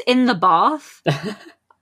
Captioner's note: laughs